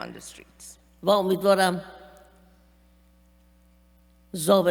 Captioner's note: speaking persian